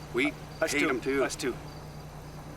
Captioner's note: scoffs